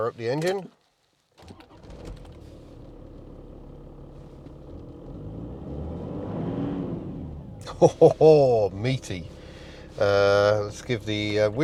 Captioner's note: meaty six cylinder diesel noises